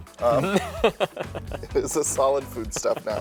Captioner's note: laughter